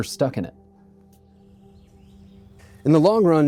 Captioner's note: footsteps. Wind in trees. Birds chirping in the distance